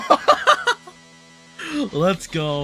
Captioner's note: maniacal Laughter; inhale